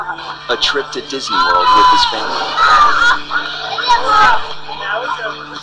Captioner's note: voiceover